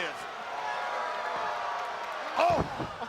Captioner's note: crowd cheering